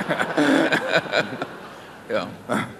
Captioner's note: laughter